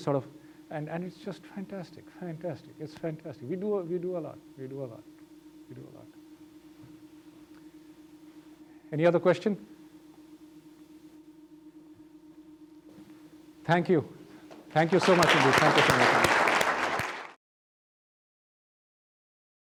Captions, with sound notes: sort of and and it's just fantastic fantastic it's Any other questions? Thank you, thank you so much. [Applause]